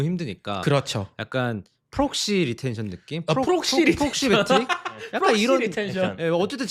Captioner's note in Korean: 웃음